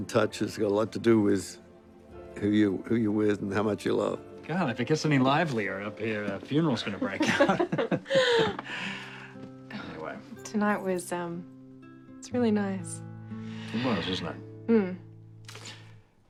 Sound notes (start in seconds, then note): 7.1 laughing